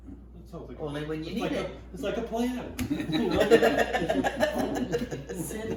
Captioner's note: all laughing